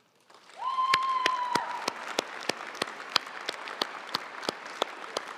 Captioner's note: audience cheering and applauding